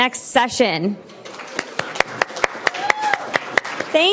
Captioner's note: applause